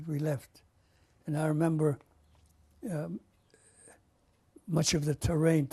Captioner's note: pauses for 3 seconds